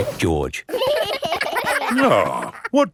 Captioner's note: giggling